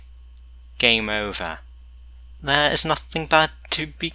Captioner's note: stereotypical Italian Accent